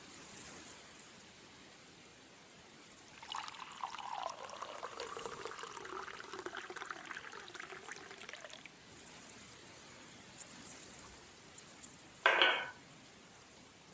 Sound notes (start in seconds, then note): 3.1 sound of tea pouring into a cup